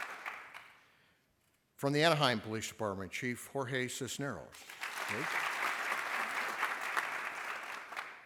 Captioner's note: applause